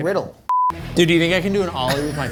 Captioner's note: tone beeps